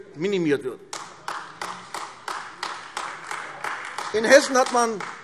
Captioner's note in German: Beifall AfD